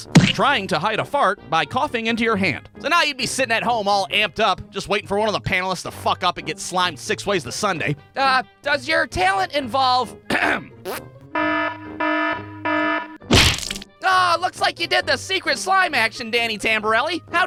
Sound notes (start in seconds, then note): 11.3 alarm goes off!; 13.2 thwack!